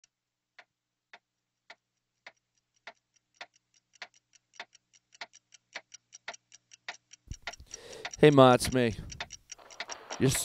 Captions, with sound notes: [CLOCK TICKING] HEY MA, IT'S ME